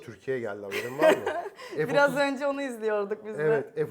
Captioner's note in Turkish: kahkaha